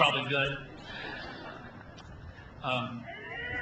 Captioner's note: laughs